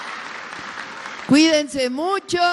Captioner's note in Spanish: aplausos